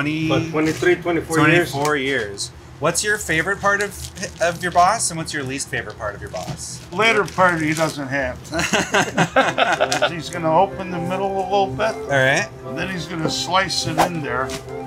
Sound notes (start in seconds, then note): 8.5 laughing